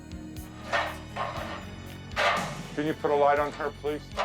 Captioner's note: ladder clattering